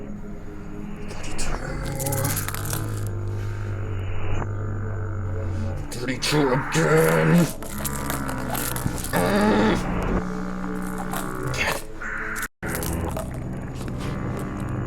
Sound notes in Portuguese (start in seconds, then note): 6.0 com raiva, através dos dentes